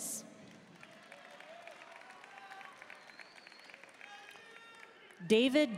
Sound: audience cheering and applauding

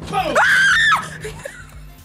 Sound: screams

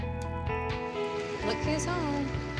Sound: truck approaching

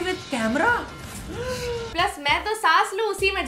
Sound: le gaaaasp

